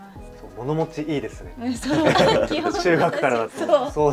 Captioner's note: laughs